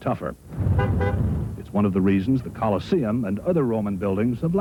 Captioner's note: car horn honking